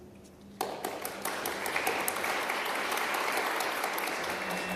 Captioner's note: applause; drone-like music